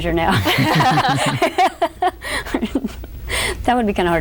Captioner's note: laughter